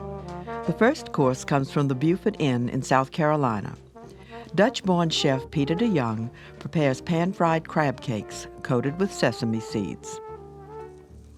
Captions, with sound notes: - [Voiceover] The first course comes from the Beaufort Inn in South Carolina. Dutch born chef Peter Deyoung prepares pan-fried crab cakes coated with sesame seeds.